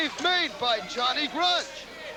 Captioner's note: crowd cheering